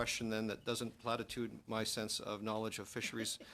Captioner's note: mixed voices